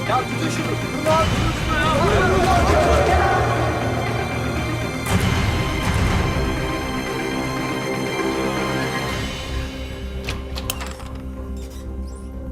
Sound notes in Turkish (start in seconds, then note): 1.8 Bağrışma sesleri; 5.3 Müzik - Gerilim